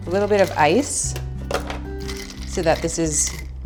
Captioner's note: putting ice on the blender loudly